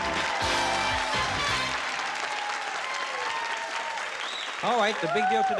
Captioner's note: cheering